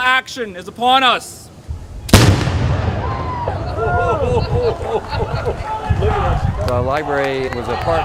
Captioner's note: cannon fires